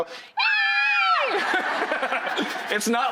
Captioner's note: squealing; audience laughing